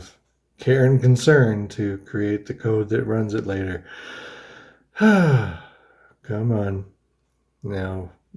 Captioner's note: sighs